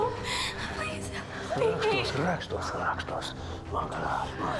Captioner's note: speaking Slavic language